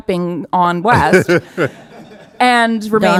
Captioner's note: audience laughing